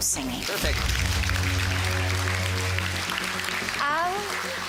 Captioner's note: applause